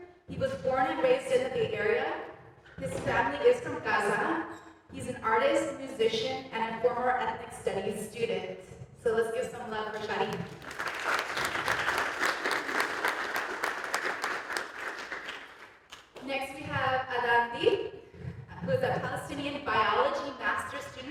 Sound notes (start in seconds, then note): 9.9 applause